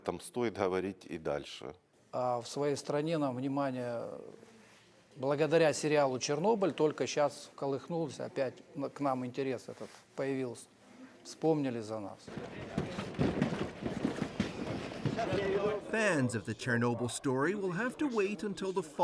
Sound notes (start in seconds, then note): 6.7 speaking foreign language